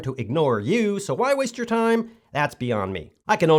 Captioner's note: none